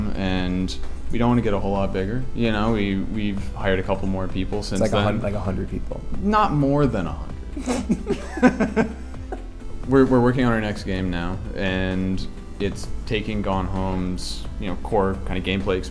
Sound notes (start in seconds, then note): 7.6 both laugh